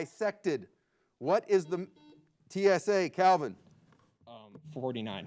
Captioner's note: buzzer beeps